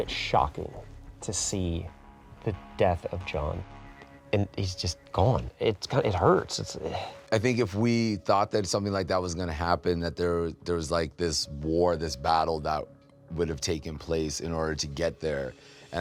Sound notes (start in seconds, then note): 6.8 sighs